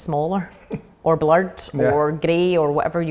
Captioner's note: laughing